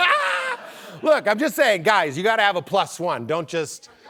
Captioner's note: laughs